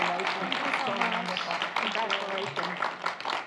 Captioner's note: audience applauds